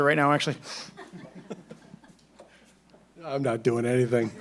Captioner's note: laughing